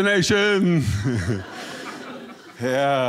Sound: audience laughing

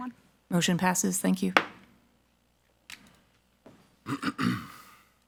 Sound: gavel thuds

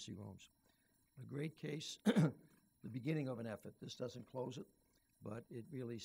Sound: clears throat

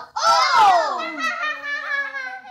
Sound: laughing

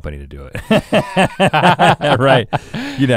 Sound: laugh

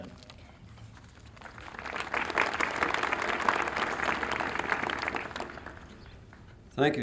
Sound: applause

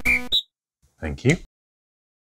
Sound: whistle tweets

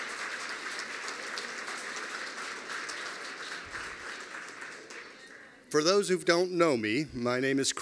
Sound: applause

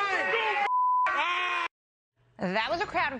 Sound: shouting

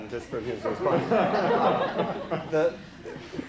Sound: laughter

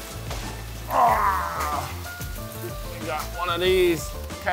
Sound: groans

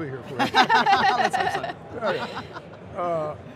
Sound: laugh

